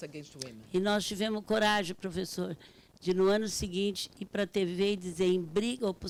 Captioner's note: speaking Portuguese